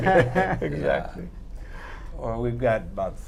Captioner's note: laughter